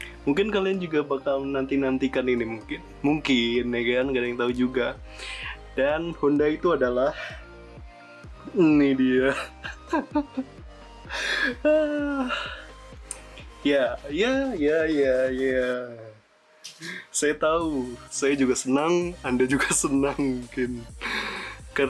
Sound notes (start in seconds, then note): 11.0 huuuuhhhhh